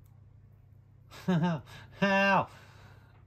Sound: laughs

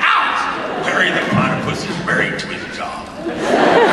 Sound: in Monogram voice; audience laughs more

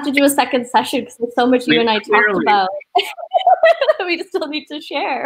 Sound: laughs

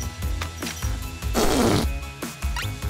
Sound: farting sounds

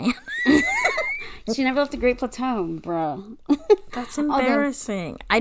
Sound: laughs

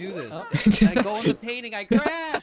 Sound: laugh

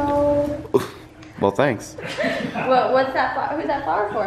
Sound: all laugh

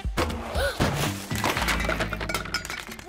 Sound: gasps

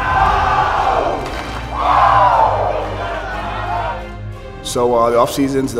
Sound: team Chanting

